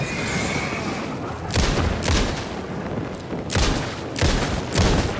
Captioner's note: gunshots